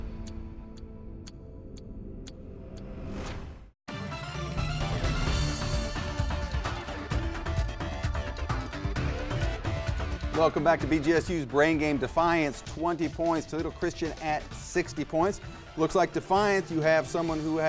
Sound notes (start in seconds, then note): 1.2 clock ticks; 4.0 electric music